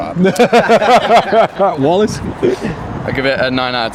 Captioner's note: laughs